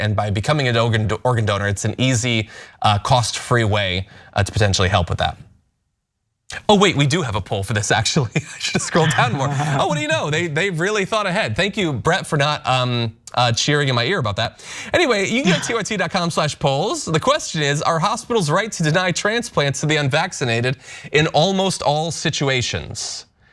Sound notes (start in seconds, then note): 8.3 laugh